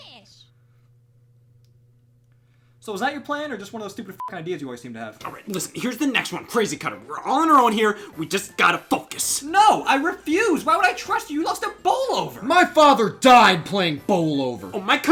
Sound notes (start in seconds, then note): 4.3 beeps